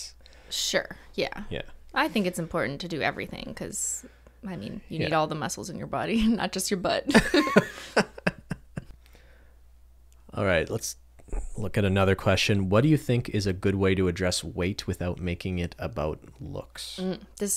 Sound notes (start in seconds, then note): 7.1 laughter